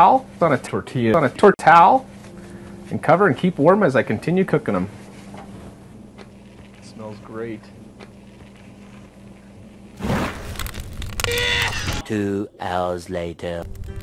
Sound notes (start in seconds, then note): 9.8 fire fwoomph; 11.3 Seymour coughs